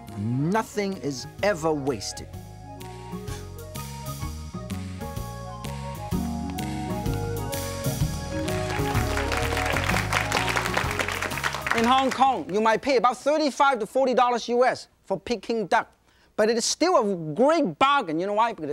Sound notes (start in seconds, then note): 8.0 audience claps